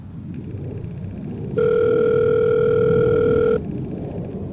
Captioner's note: phone ringing